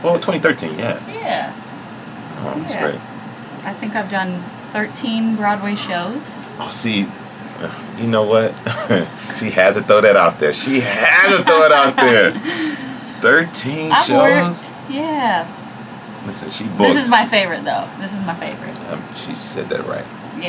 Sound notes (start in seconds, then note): 8.6 laughs; 10.7 laughs